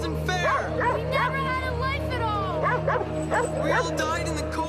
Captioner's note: dog barking